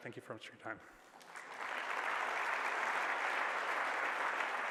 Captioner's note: applause